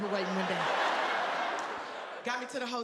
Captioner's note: audience laughing